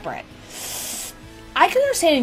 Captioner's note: inhales through teeth